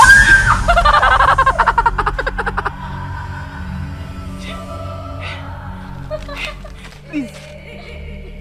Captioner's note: laughter